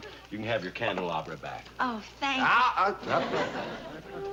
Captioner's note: shouts